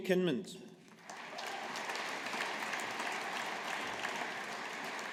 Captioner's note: audience applauding